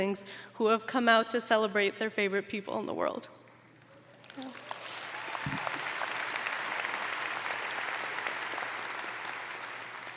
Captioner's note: applause